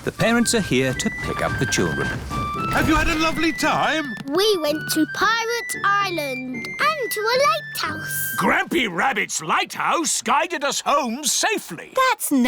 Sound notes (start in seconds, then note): none